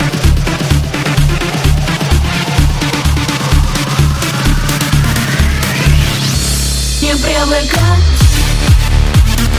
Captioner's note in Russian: ааа